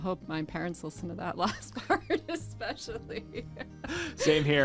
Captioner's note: laughs